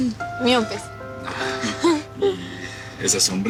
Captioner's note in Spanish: Risas